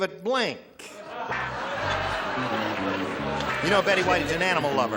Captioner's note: laughter; upbeat music